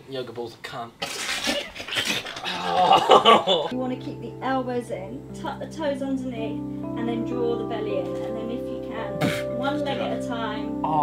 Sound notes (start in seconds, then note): 1.4 group laughing